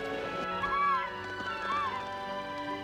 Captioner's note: squawking, fluttering